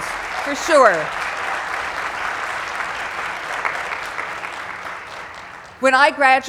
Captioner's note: applause